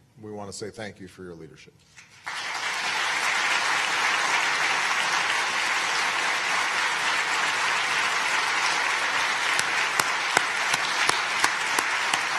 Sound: applause

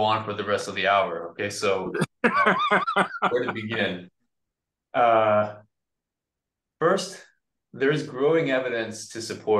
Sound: laughs

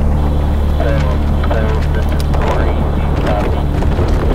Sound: wind blowing; voice speaking on the radio; wind blowing hard

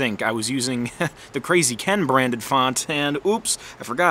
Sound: chuckles

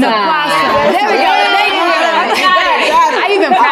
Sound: ladies cheering

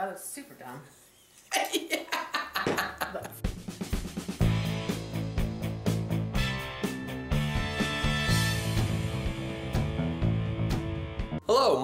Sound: laughing

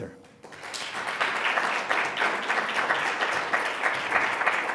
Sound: audience applauds

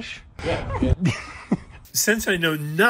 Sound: laughing

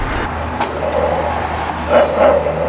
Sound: growling

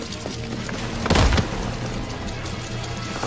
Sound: hits the ground

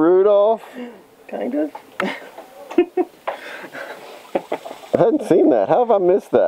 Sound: laughs

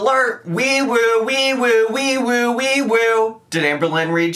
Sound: making siren sounds

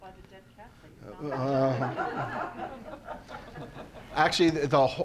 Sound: all laughing

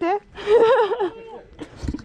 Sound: giggles

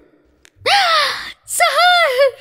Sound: gasps

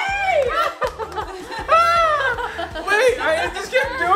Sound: laughing

